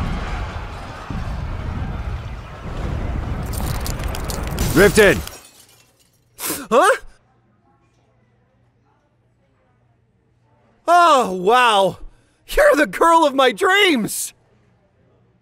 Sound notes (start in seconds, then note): 0.0 epic battle dream sounds; 3.4 glass shatters